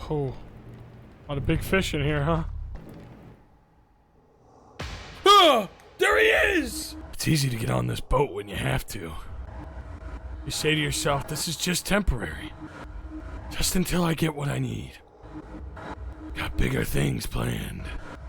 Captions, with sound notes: Oh... A lot a big fish in here, huh? (gasps) There he is! "It's easy to get on this boat when you have to. You say to yourself, this is just temporary. Just until I get what I need. Got bigger things planned.